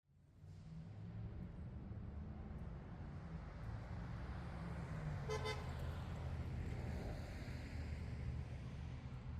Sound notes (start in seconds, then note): 0.4 faint cars; 5.2 car horn